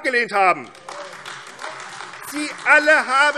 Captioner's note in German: Beifall AfD